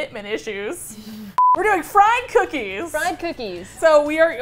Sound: laughing; beep

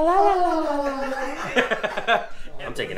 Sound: laughs

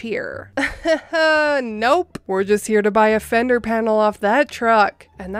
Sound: laughs awkwardly

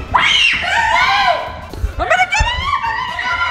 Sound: screeching

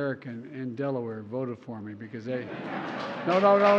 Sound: laughter; applause

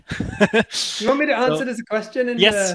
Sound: laughing

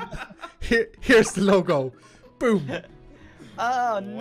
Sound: laughs

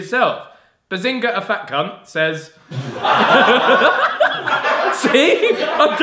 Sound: laughing

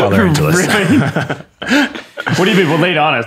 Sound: laughter

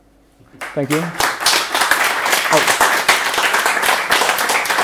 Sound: applause

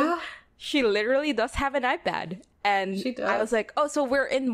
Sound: laughs

